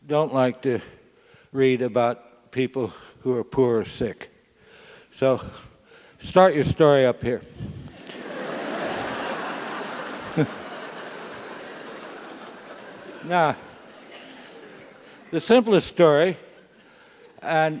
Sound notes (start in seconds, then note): 7.8 laugh